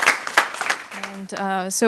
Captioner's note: applause